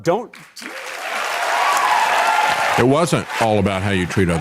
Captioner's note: audience Applauding